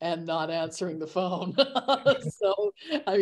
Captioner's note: laughter